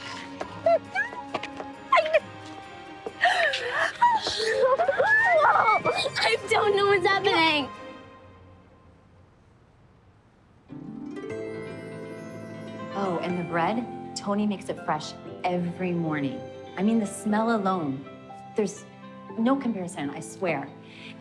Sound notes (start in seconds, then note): 0.1 laughing; 4.8 excited squealing